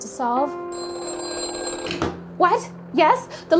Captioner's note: phone ringing